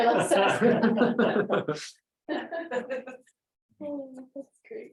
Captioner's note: laughter